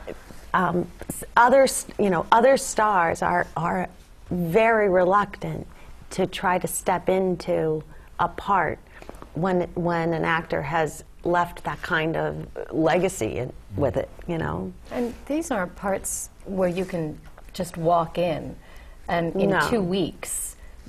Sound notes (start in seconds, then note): 0.6 laugh